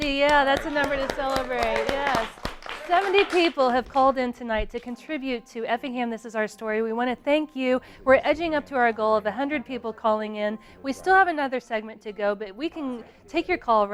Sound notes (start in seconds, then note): 2.8 applause